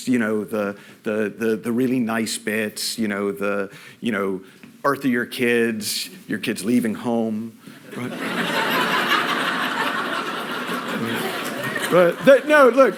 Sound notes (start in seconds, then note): 7.9 laughter